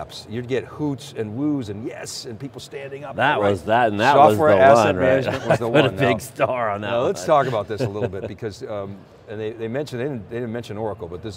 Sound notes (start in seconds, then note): 7.2 chuckles